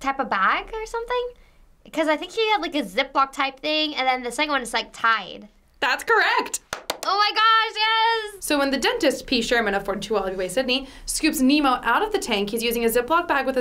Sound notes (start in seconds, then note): 6.6 claps